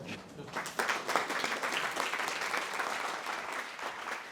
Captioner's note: audience applauding